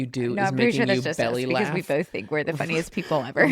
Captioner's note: laughs; laughs